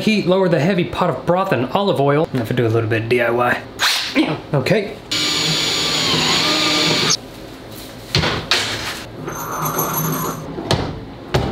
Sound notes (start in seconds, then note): 5.1 drill whirring; 5.1 drill screeches; 9.5 metal rattling; 11.2 light thudding